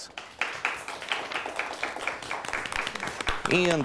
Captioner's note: audience applauds